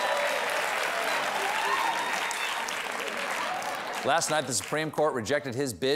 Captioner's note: cheers and applause